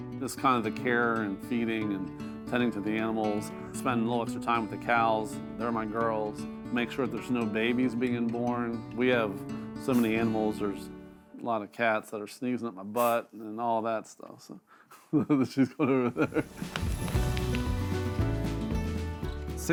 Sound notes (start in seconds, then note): 15.0 chuckles; 16.4 instrumental music